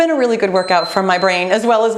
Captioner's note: timer beeping